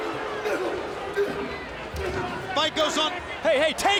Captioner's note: wrestlers grunting